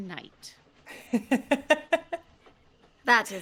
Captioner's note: chuckling